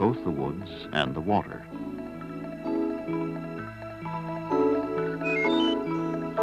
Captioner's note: nature sounds